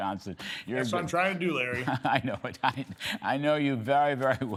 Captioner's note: laughter